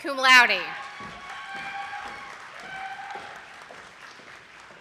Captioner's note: attendees clapping